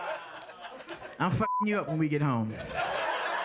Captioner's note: audience laughing; beep